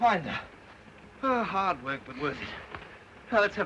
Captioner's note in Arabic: آيريس تتنهد